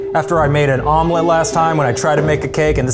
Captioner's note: beeps